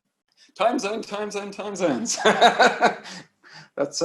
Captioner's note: laughs